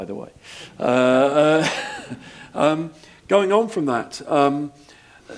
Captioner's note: laugh